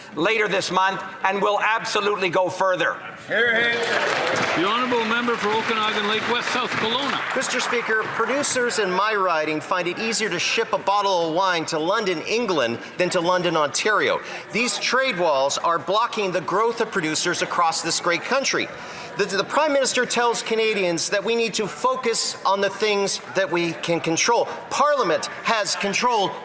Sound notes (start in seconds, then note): 7.7 some Applause